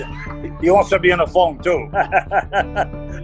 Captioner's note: laugh